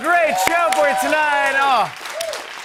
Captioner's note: cheers and applause